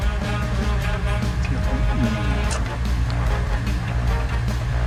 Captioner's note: slurping noises